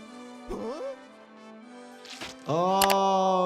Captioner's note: Lumpy groans